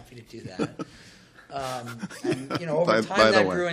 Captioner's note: laughter